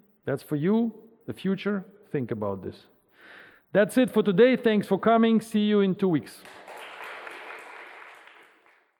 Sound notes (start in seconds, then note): 6.4 audience applauding